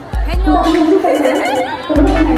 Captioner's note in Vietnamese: cười như điên